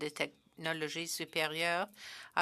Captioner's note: speaking French